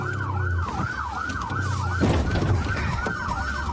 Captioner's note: bangs